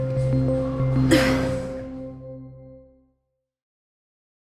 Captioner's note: gentle music; grunts